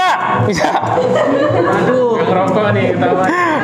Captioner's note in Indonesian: Laugh